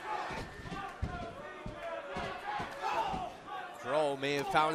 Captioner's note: fans chanting